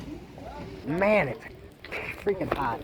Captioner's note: sputting